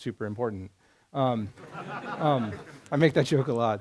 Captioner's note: laughter